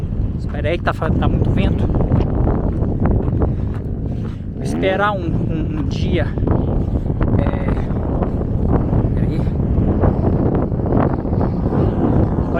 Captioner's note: wind blowing; wind blowing even stronger